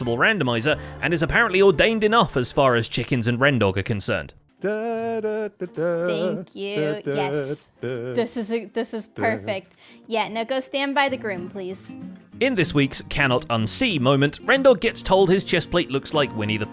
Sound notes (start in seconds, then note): 6.6 🎶Humming " "🎶